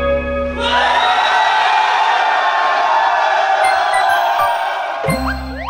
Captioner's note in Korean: 歡呼